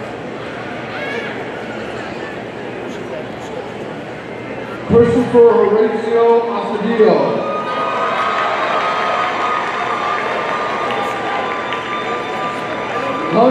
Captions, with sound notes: Christopher Horacio Astudillo, (audience cheering)